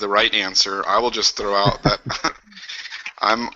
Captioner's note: chuckles